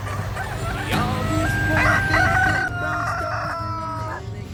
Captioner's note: roosters crowing